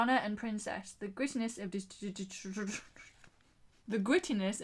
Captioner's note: laughs